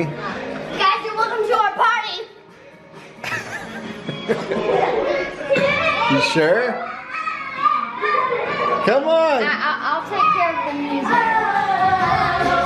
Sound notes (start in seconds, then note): 3.2 laughs; 5.1 kids laugh